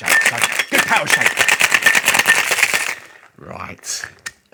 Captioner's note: rattling sounds